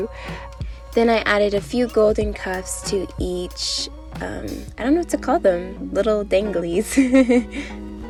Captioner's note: giggles